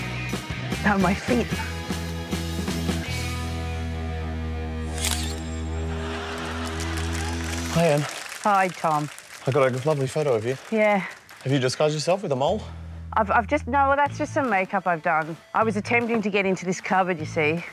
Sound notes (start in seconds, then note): 5.8 laughter and applause